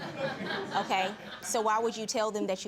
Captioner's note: audience laughing